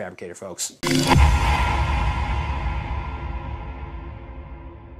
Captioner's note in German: ominöses Echo